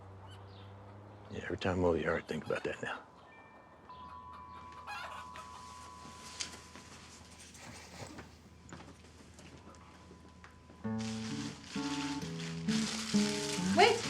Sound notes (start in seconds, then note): 2.9 wind chimes clinking; 4.3 chicken squawking; 10.7 gentle bright guitar music